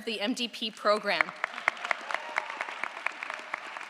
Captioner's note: audience applauds